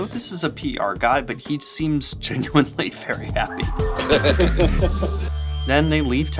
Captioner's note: laughter of pure joy